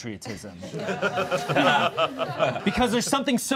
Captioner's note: all laughing